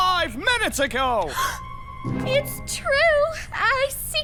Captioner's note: gasps